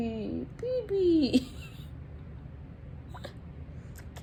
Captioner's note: laughing